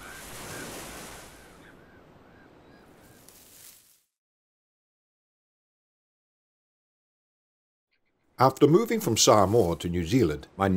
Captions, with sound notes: (Harakeke leaves rustle) After moving from Samoa to New Zealand,